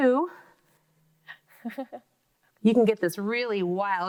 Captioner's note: laughs